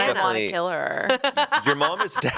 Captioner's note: laughs